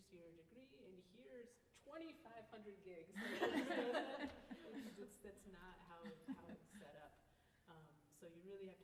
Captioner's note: laughter